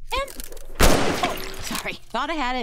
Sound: gunshot

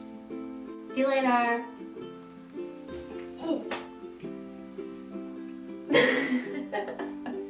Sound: laughs

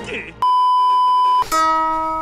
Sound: beeeeeep

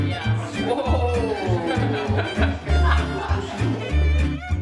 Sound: playful violin music; scattered laughing; playful violin music

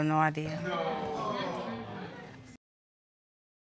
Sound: audience groaning

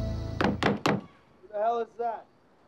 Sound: urgent knocking

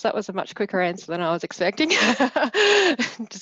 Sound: laughs

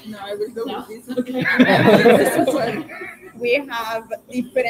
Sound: chuckles

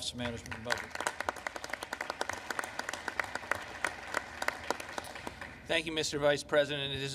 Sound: applause

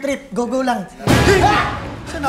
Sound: bang

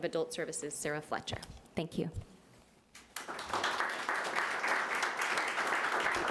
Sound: audience applauding

